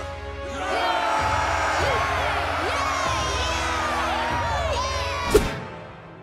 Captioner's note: cheering